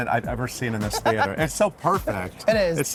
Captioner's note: Michaela laughs